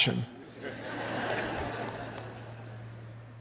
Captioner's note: laughter